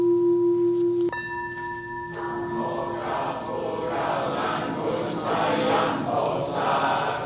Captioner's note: chanting